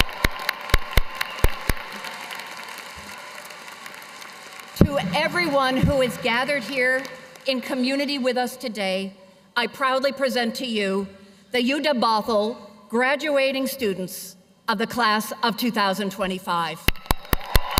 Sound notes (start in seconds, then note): 4.9 cheers and applause